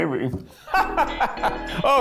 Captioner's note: laughs